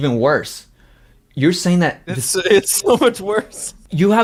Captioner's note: laughs